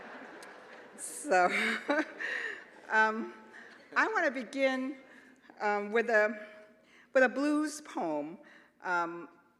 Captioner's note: laughter